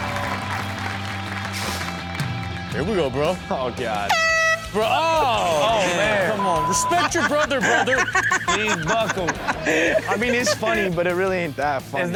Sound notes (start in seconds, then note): 0.0 upbeat music; 4.1 whistle blowing; 9.2 Chanel laughs